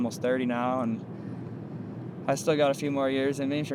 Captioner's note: none